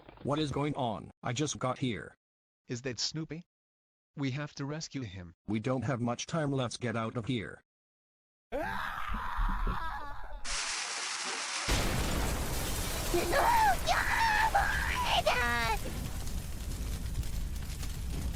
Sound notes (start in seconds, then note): 8.5 Gelatin Screaming; 11.6 explosion